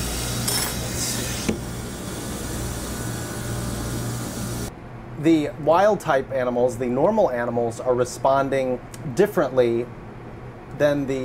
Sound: machine noise

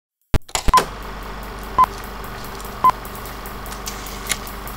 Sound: sound of old film reel

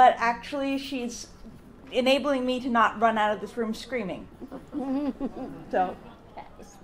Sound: audience laughs

